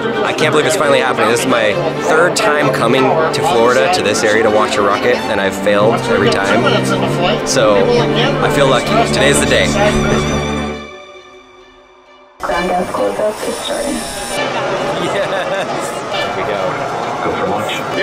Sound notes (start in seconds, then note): 12.2 person on radio mumbling